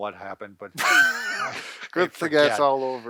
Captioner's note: both laugh